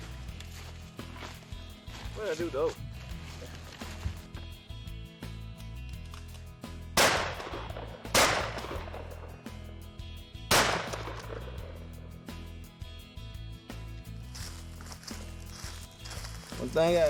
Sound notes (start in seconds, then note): 7.0 gun shots